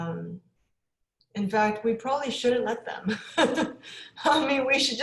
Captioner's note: laughs